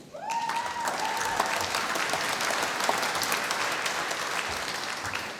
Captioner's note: applause